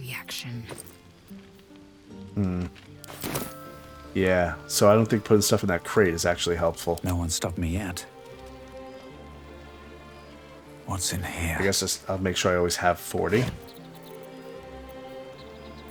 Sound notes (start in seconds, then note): none